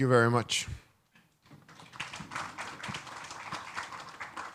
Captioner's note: applause